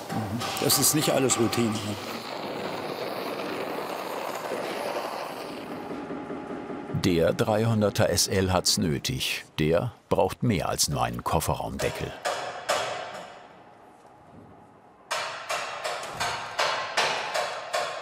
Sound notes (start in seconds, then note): 11.8 knock